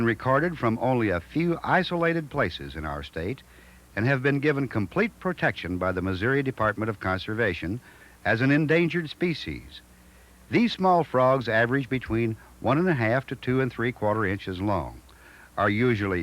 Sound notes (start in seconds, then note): none